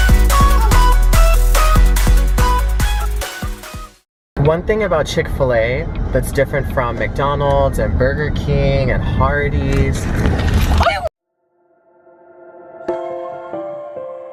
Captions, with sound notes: One thing about Chik-Fil-A that's different from McDonald's and Burger King and Hardee's-- (shouting)